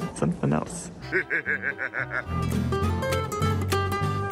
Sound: laughs; bright music

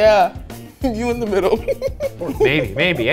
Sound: laughs

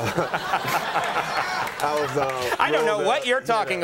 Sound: audience laughing

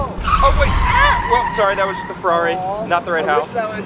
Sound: tires screeching

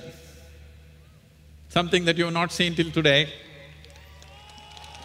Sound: cheers/Applause

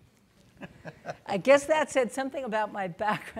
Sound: laughing

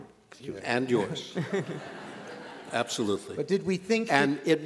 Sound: laughter

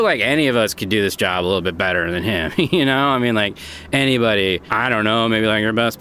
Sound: laugher

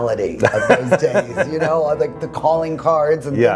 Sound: laughing

